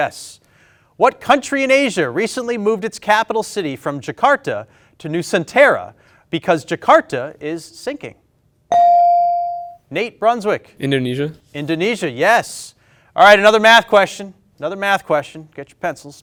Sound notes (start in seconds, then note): 8.7 ding chimes